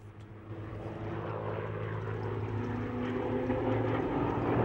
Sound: planes zooming

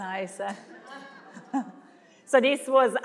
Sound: laughing

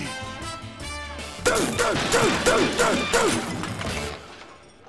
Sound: grunting

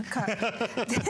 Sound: laughter

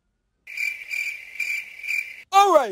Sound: cricket Sound Effect

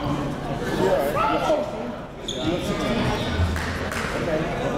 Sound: crowd talking

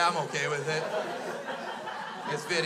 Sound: crowd laughs

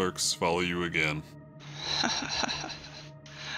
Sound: Mrs. Donovan chuckles

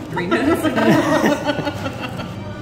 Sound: laughter

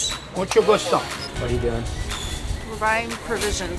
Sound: speaking in Spanish

